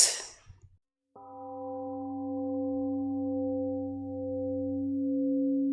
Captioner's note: temple gong rings and fades